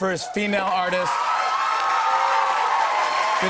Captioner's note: cheers and applause